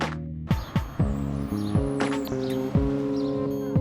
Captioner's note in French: Chant des oiseaux